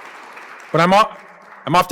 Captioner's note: applause